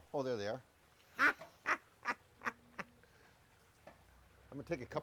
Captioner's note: laughing